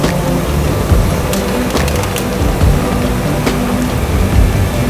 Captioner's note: tow truck winch whirring; vehicle creaking; tow truck winch whirring